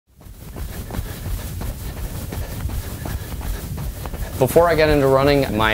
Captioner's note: sound of runner's footsteps